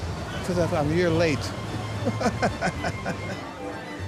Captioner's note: laughing